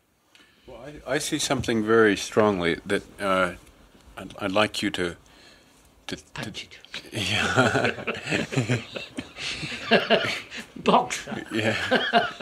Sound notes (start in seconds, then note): 7.2 laughs; 11.6 laughter